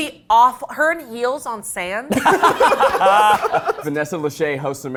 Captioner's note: all laughing